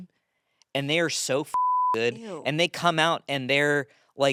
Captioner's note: beep